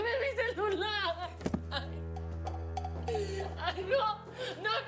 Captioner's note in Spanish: sollozos